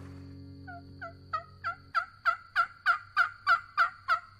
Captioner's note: turkey calling